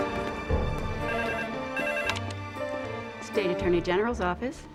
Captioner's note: phone ringing